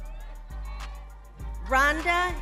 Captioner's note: crowd cheers